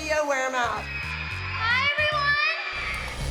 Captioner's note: cheering